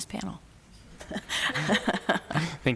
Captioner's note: laughter